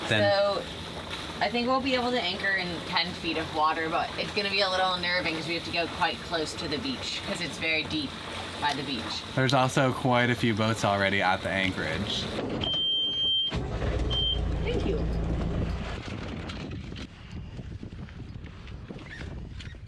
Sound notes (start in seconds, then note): 12.5 boat beeping; 13.5 engine purring